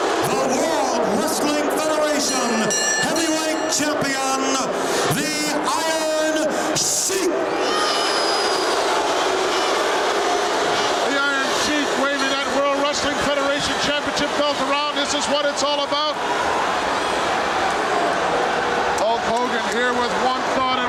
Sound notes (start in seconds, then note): 7.5 audience shouting